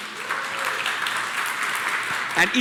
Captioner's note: applause